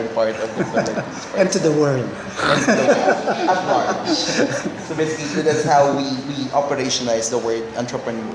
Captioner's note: laugh